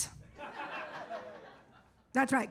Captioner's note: audience laughs